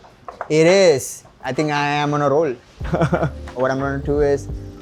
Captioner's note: chuckles